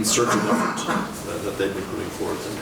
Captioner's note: man coughing